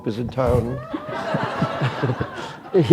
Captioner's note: laughter